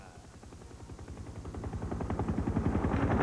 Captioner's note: helicopter whirring